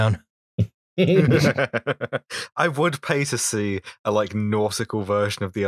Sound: laughter

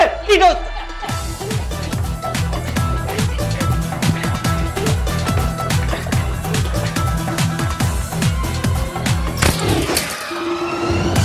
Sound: quarreling

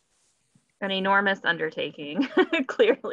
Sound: laughs

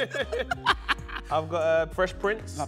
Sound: both laugh

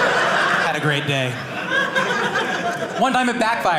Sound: audience laughing

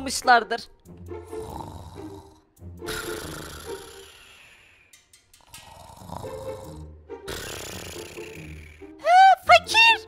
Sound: snoring sound

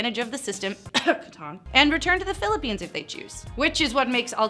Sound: cough

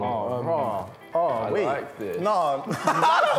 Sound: laughs

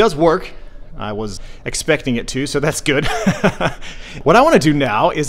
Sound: laughs

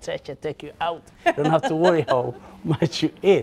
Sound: laughs

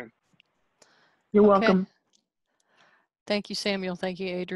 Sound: on phone

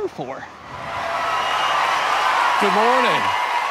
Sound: crowd applauding

